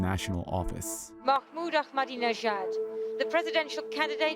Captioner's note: soundbite of archived recording